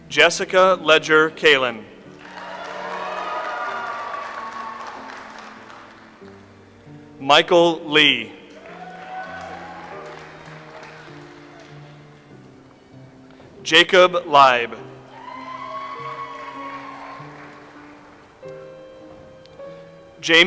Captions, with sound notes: Jessica Ledger Kalen. (audience applauds) Michael Lee. (audience applauds) Jacob Leib. (audience applauds)